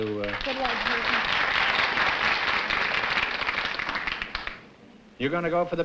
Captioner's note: applause